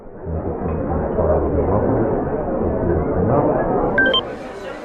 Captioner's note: background babble